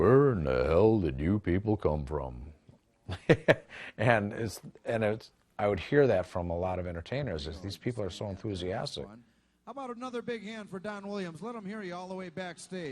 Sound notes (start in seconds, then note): 3.1 laughs